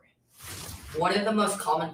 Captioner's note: whooshing